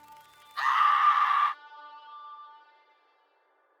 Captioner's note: Lock screams